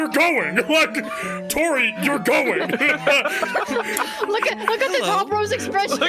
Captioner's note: all laughing